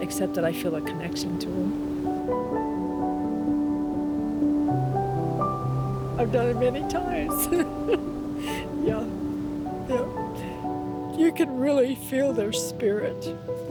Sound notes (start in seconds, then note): 5.7 soft piano music; 9.6 choking up